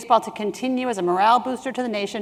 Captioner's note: none